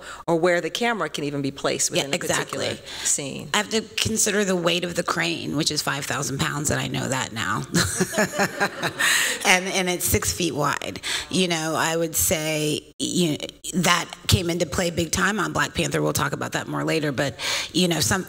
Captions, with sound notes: or where the camera can even be placed in a particular scene. Yeah, exactly. I have to consider the weight of the crane, which is 5,000 pounds, and I know that now. [laughter] And it's six feet wide. I would say that came into play big time on Black Panther. We'll talk about that more later, but something